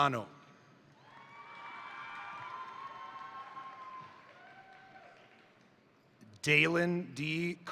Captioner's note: crowd cheering; crowd applauding